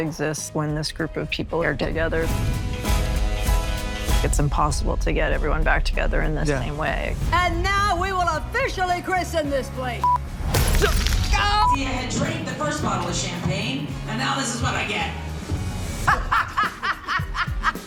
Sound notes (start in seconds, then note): 2.0 upbeat music playing; 9.8 camera beeps; 10.4 bottle shatters; 16.0 laughs